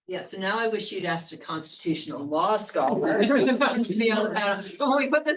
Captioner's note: attendees laughs